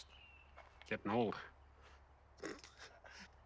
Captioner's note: laughing